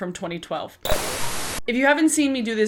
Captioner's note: static noise